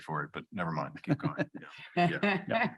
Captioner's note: chuckling; chuckles